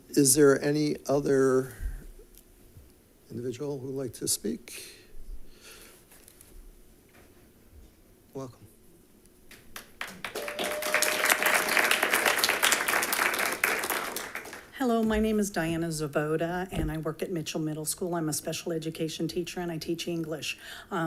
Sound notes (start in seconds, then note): 9.5 audience claps